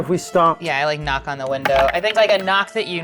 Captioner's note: dice clattering